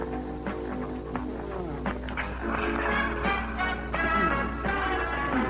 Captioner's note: sighs; coughing